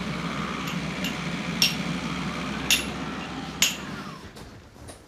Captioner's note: hammering